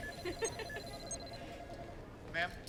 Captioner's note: metal detector beeps